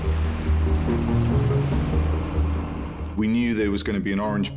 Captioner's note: engine whirring